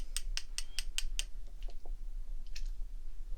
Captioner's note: tapping